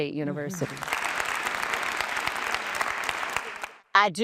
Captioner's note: applause